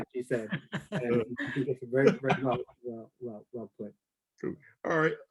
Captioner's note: laughs